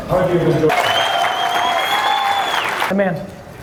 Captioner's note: audience cheers